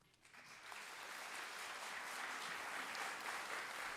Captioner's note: applause